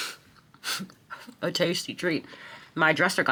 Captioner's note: chuckles